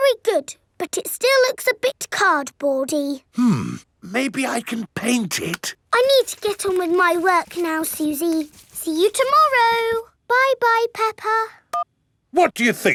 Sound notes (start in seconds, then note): none